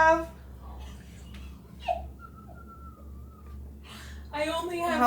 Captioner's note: investigators chuckle